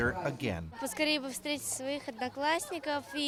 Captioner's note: speaking Russian